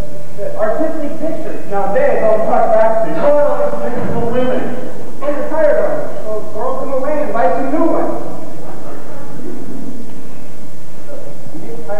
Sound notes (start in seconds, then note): 8.5 laughter